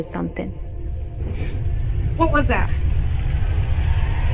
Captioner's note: booming and whooshing